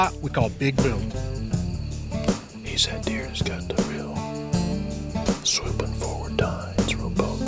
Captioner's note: whispering